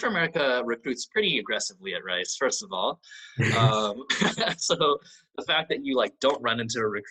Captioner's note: all: laughs